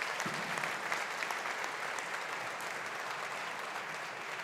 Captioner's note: audience applauding